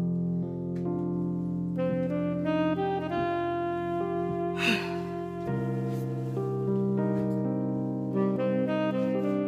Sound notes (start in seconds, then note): 4.5 sighs